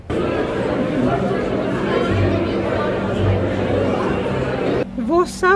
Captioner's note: people chattering